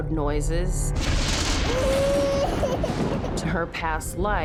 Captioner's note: thunder rumbling; girl crying